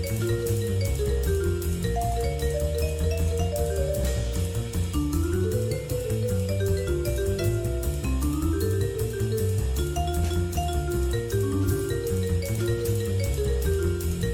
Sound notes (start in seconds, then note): none